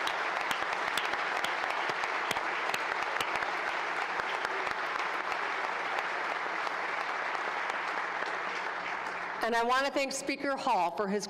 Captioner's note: applause